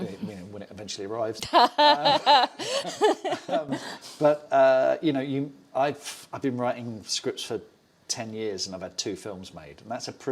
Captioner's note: laughs